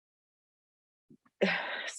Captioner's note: frustrated sigh